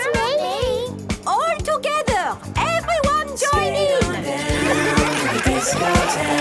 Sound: laughter

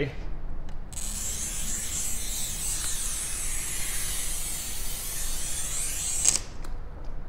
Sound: scratching cutter noise

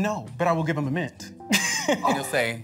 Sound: chuckles

